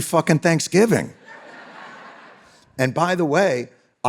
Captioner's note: audience laughing